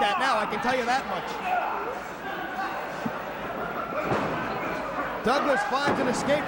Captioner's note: crowd chatter